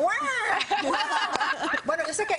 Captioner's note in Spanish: risas